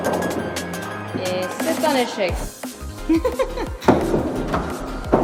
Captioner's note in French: rires